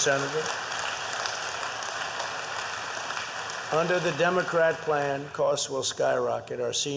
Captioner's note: applause